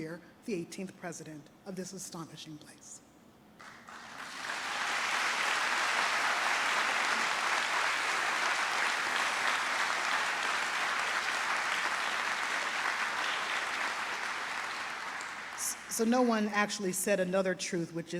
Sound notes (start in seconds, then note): 4.2 trustees and audience applaud